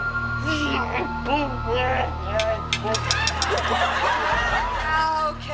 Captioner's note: exclaiming; metal tongs clinking